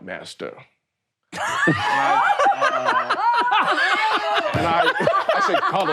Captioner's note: all laughing